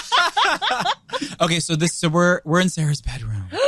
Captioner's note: laughing